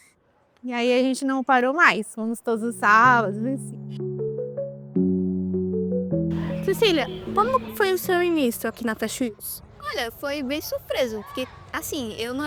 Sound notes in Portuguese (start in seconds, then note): 2.8 música instrumental; 6.2 ruídos da rua